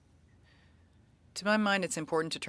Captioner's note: speaking French